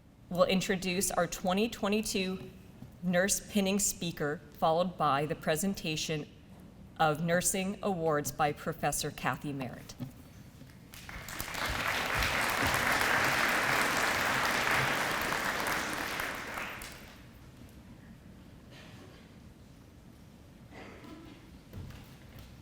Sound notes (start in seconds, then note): 10.9 audience applause